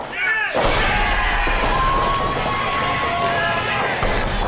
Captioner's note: cheering